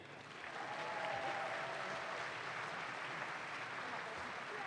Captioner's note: audience claps